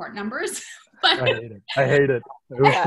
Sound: laughs

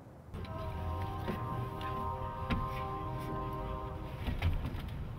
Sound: train horn

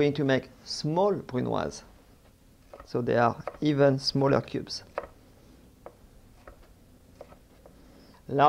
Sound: cutting sounds

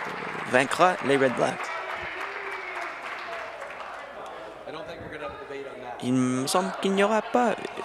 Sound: applause

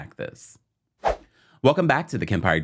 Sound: air whooshing

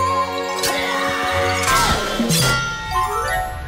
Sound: struggling sounds

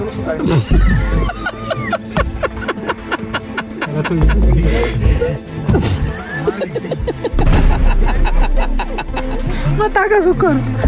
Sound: laughter

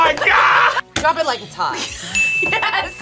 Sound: buzzer rings; laughs

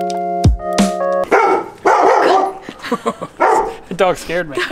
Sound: dog barking

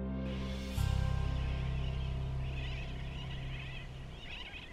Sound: birds chattering

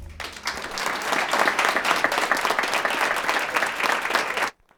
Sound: audience applauding

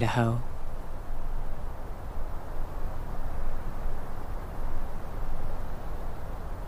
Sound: constant whoosh of wind through trees

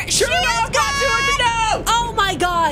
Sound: screaming at game

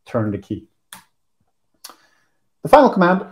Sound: mouse click

